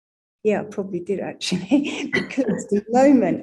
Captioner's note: laughing